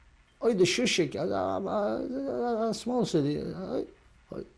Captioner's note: non-english